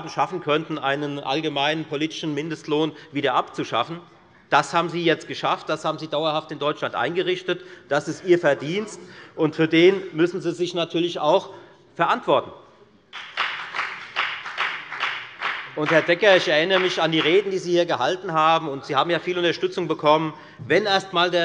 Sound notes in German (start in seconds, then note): 11.5 Beifall bei der FDP